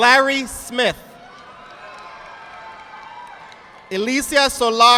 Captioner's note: audience applauding